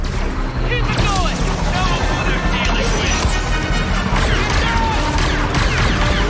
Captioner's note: tense dramatic music; weapons zinging